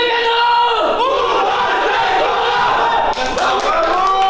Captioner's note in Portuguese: grito de guerra; aplausos